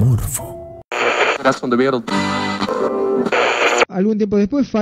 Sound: radio tune

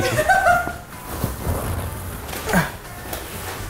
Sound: laughs

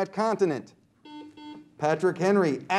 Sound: buzzer beeps

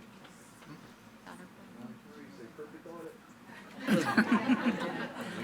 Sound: attendees chattering; attendees laughing

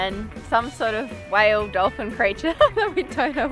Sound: laughs

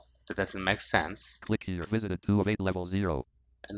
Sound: screen reader voice

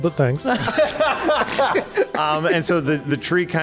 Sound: laughs

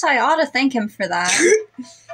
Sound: slorp

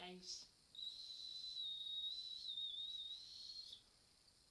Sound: whistling noise

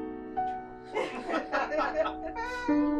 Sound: laughter

